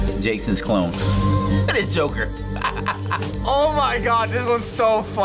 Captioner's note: haunting music; laughs